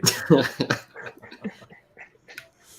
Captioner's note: laughter